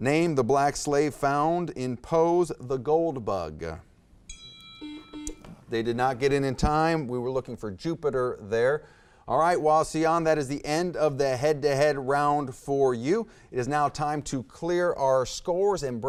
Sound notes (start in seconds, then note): 4.3 timer dings; 4.3 buzzer beeps